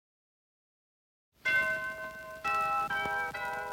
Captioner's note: church bells